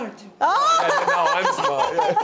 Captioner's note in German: lacht